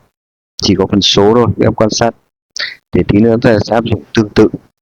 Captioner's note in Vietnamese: hắng giọng